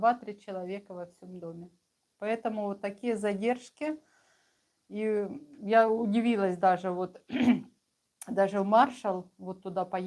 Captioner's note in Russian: откашливается